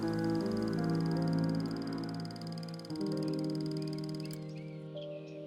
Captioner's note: reel clicking